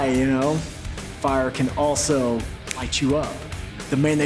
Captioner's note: snaps fingers